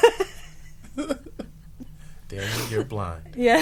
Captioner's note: group laughing